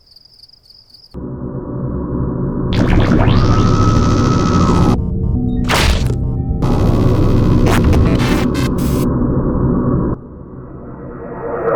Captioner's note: hovering Spacecraft Noises